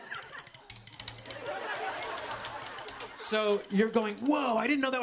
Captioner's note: laughter